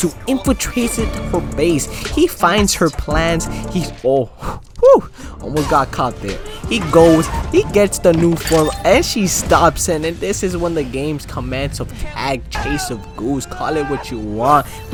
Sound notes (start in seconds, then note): 5.1 breath